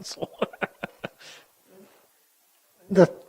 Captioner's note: chuckles